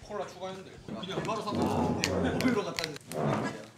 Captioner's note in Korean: 대화 소리